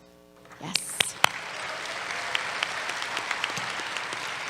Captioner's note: applause